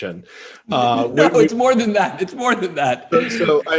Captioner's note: laughs